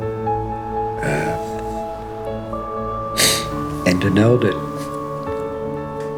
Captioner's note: sniff